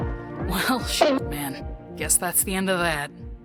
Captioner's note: doink!